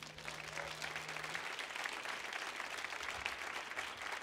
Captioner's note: audience applauding